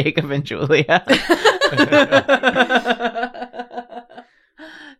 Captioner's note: laughter